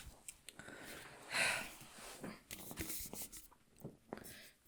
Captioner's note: Hana sighs